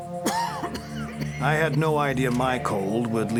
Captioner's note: coughing